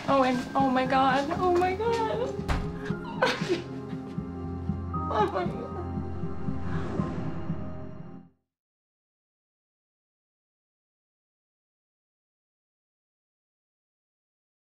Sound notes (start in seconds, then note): 2.9 crying